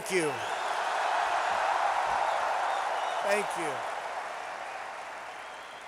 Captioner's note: applause